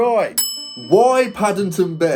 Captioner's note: bell dings